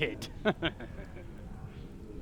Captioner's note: evil Chuckle